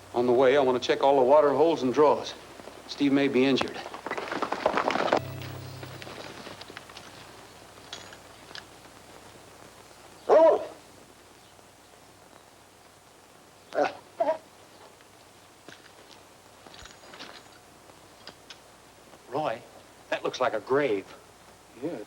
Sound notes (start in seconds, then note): 4.5 horses galloping; 10.2 dog barking